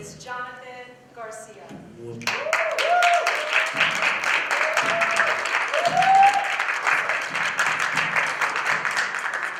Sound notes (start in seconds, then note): 2.2 applause